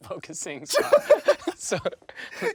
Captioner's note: both laughing